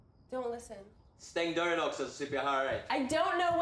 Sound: Hartley speaks in Swedish

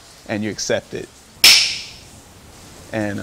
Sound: lash sound

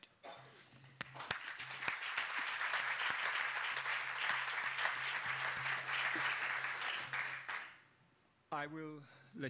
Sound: applause

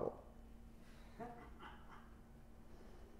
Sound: laughter

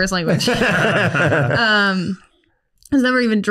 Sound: laughs

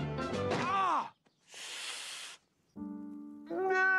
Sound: breathing intensifies

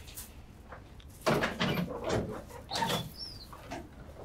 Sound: door opens

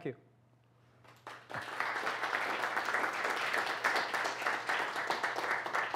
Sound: applause

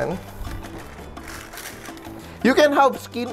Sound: rustle

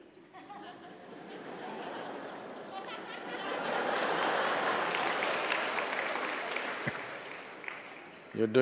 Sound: laughter/Applause

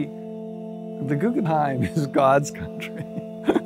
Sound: laughs

